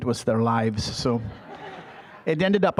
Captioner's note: audience laughing